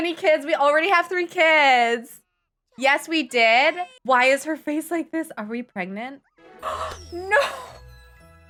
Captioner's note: gasp